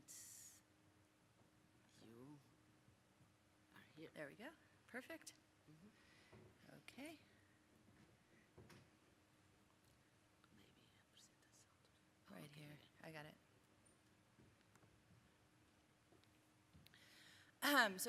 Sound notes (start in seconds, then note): 10.8 whispering